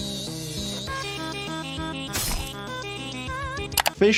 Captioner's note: weapon rasping; blood squelching